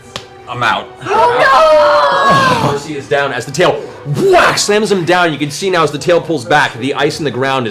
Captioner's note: whack